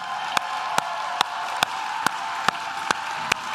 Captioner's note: claps